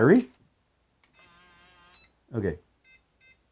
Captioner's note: powerbolt buzzing; keypad tone